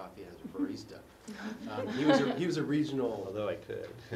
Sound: laugh

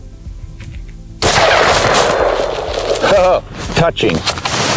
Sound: gun shot

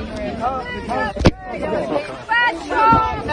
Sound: sounds of a crowd; thud as camera is struck; sounds of a crowd

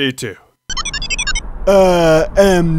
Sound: beeps

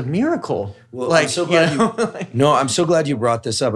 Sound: laughs

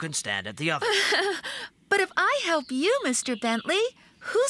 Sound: chuckling

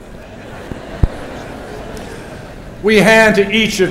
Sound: laughter

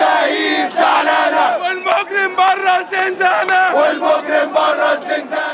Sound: chants

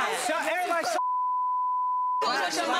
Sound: beep

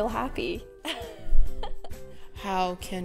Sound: laughs

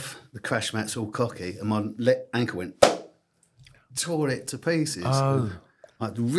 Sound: pop

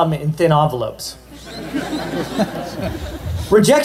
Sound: laughter

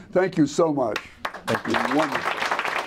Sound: applause

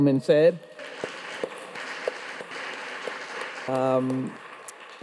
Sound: audience applauds

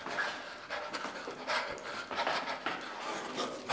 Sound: heavy breathing

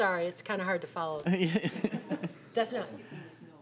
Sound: chuckling

